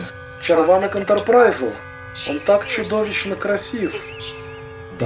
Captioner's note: over comm